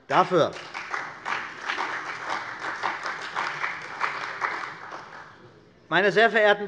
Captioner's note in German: Beifall bei der CDU und dem BÜNDNIS 90/DIE GRÜNEN